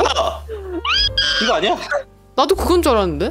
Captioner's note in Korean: 비명